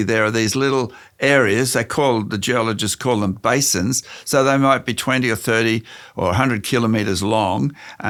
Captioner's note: none